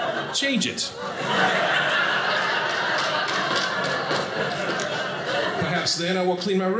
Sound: audience laughing

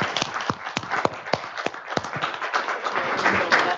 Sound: applause

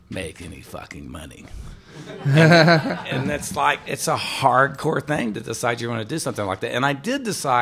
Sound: laughter

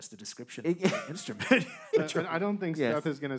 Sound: man chuckling

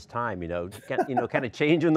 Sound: laughing

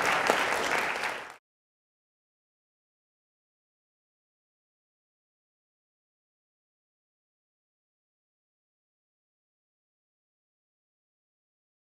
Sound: applause

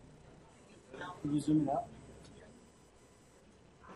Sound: voiceover

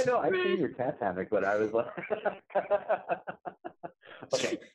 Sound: laughs

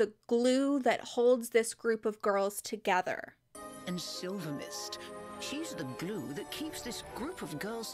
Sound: voiceover

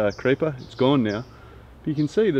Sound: birds chirp

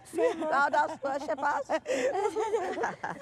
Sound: laughs

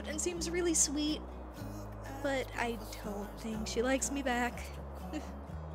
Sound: chuckles

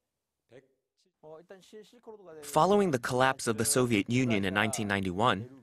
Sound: Korean

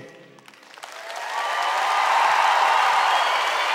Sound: cheers and applause

